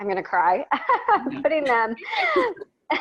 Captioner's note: laughs